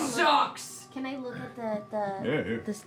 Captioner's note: shouting